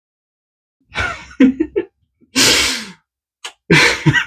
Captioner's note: laughs